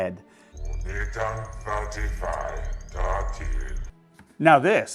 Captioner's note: Jabba the Hutt speaking in Huttese